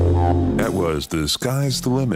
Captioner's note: phone ringing